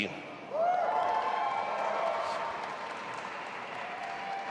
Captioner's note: audience applauding